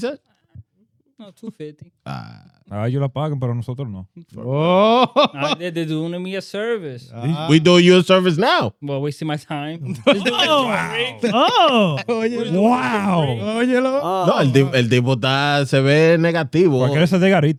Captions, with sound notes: No, 250. (Speaking In Foreign Language) They're doing me a service. We do your service now. Well, we see my time. (Laughing) Oh, great. Oh. Wow. (Speaking In Foreign Language)